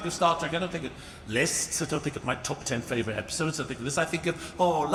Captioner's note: none